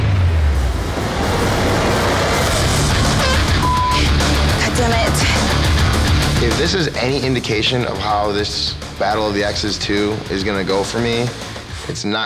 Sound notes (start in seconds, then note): 3.5 beep